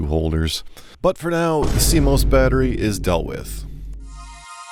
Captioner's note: boom